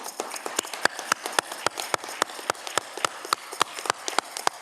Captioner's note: audience cheering